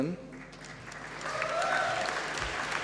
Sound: applause

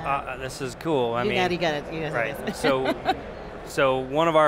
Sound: laughs

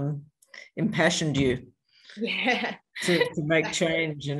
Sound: laughs

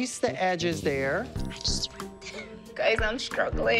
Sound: whispers

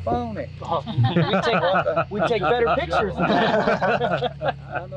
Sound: laughter

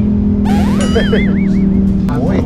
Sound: laughs; engine rumbling

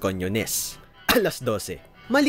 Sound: cough

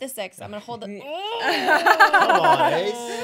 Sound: laughing

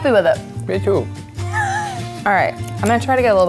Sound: laughing

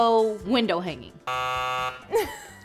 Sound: buzzing

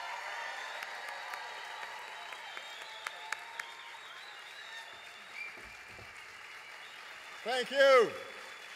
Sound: applause

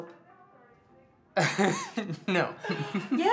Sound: chuckling

